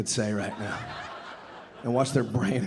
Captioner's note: audience laughing